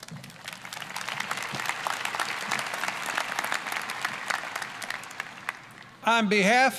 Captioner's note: applause